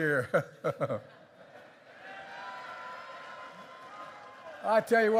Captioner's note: laughter and applause